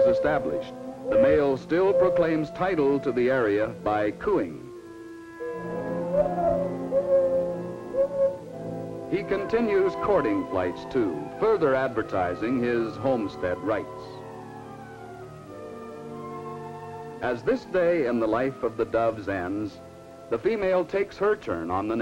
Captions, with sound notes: the male still proclaims title to the area by cooing. (mourning dove song) He continues courting flights too, further advertising his homestead rights. As this day in the life of the doves ends, the female takes her turn on the nest.